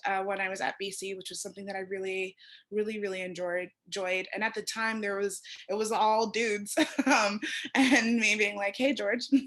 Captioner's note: laughter